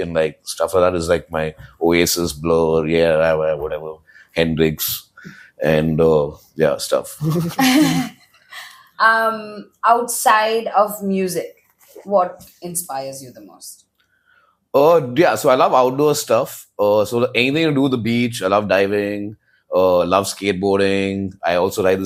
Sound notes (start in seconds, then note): 7.2 laughs